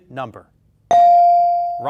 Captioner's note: bell dings